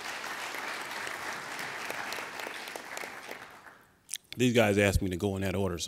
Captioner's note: applauding